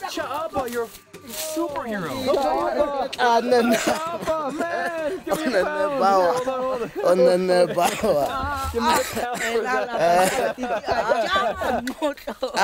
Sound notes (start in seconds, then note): 6.0 speaking foreign language; 8.6 men laughing